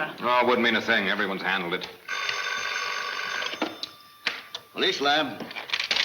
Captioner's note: phone ringing